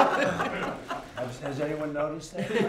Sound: laughter

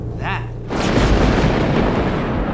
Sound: thunder rumbling

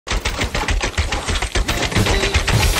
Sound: gaming noises

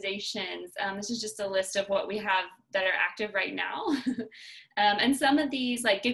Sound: laughter

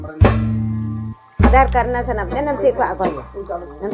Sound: sound of wood chipping and indistinct conversation in sora; speaking Sora

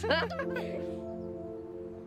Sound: laughter

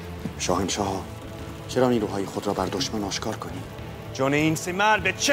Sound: Mardonius speaking in foreign language; Xerxes speaking in foreign language

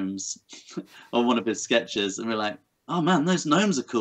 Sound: laughs

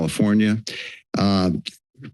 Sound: inhales

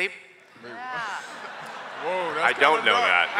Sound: laughter

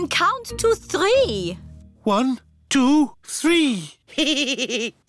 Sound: giggles

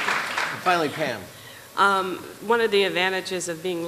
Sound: applause

